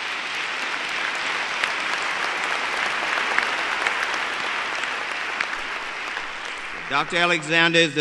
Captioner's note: applause